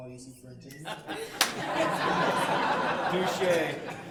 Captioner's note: laughing